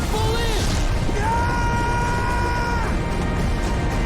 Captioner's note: screaming